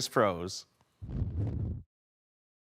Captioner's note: whoosh